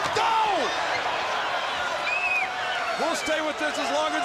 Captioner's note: crowd chatter